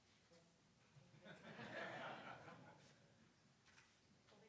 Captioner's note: audience laughing